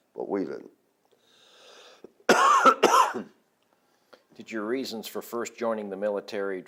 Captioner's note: coughs